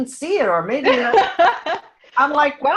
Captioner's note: laughing